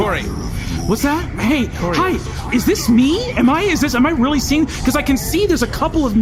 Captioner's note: the Kors argue in the background; terrified